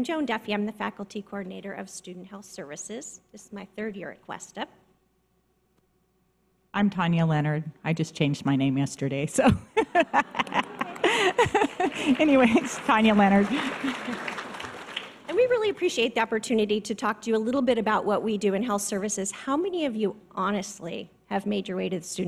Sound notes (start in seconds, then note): 9.5 laughing; 10.0 audience applause